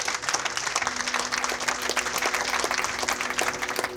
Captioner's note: applause